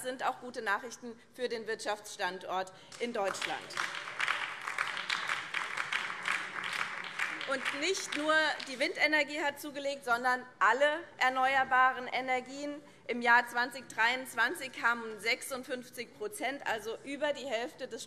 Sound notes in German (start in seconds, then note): 2.9 Beifall BÜNDNIS 90/DIE GRÜNEN